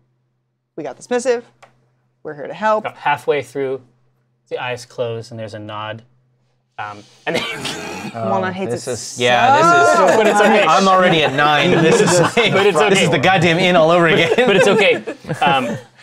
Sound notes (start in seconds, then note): 6.7 deep breath; 7.6 laughs; 9.5 laughs